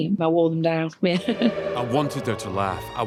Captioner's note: laughs